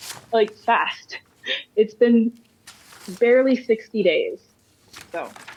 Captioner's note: laughter